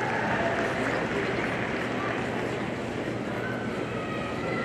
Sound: audience applauding

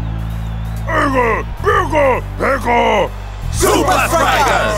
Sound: speaking in foreign language

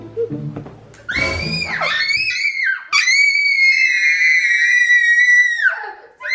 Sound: screaming

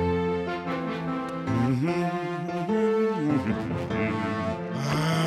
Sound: humming

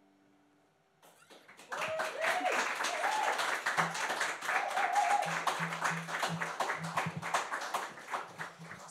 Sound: applause

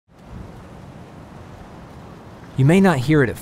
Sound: leaves rustling in the wind

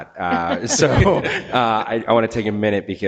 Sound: members laugh

